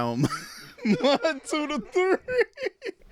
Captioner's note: laughs